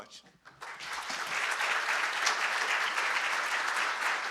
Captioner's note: audience clapping